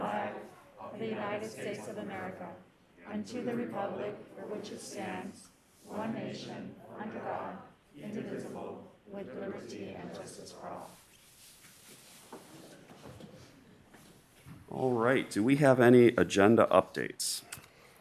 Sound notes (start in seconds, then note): 10.6 reciting the pledge of allegiance